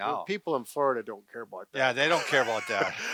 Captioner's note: laughing